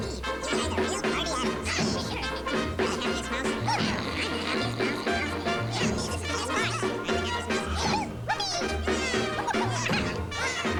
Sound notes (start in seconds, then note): 5.3 snore